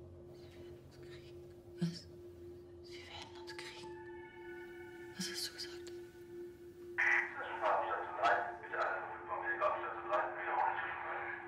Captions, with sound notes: (whispering) They will .. What? .. they will get us. What did you say? (voice over radio) Emergency on station three.